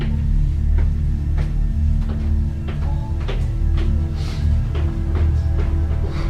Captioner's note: dark music; footsteps going up stairs